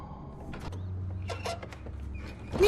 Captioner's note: hinges squeaking